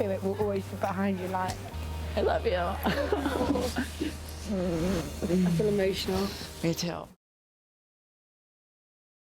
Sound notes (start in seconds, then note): 2.8 laughs